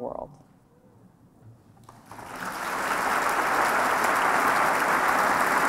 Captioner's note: applause